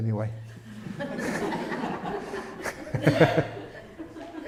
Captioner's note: everyone laughs